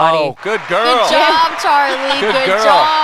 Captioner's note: applause